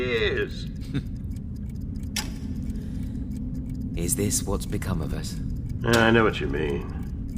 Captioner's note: chuckling